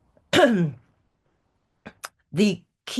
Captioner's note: clears throat